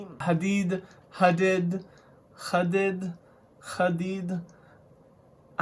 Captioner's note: arabic accent